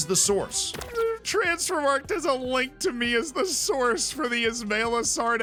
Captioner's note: laughing